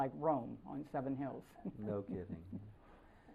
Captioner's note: laughter